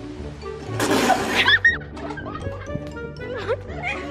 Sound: laughing

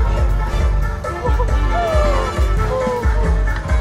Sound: inhale

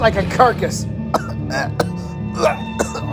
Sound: Jenkins coughs

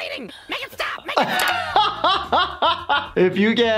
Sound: laughing

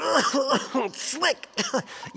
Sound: coughing

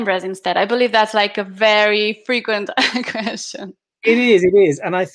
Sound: chuckling

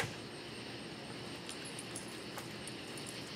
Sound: keys jingling

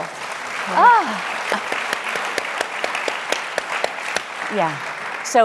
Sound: audience applauding

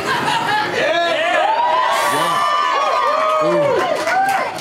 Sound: crowd clapping and cheering

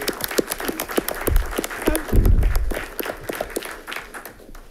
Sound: audience applauding

